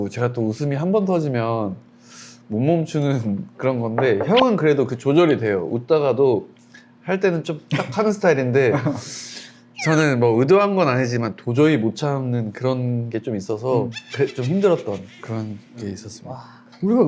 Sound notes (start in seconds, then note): 9.7 can't hold back laughter